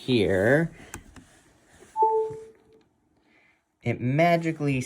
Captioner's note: Apple ding